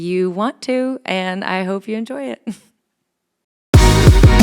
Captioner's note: chuckles; upbeat music